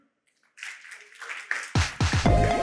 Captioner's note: applause